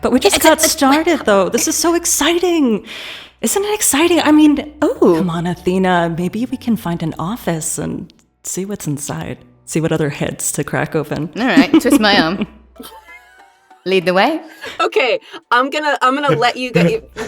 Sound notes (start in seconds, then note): 11.4 chuckles